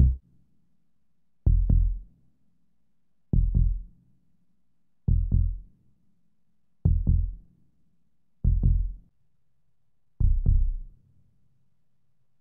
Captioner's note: suspenseful heartbeat bs